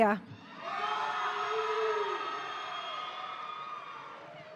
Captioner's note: audience cheering